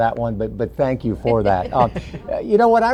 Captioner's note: laughs